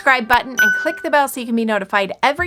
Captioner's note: bell dings